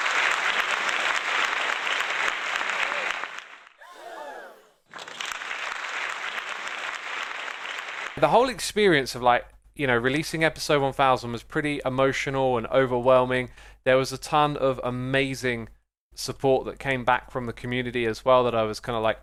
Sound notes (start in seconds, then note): 0.0 applause; 3.7 crowd gasps; 5.3 applause